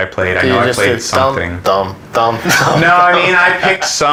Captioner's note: humming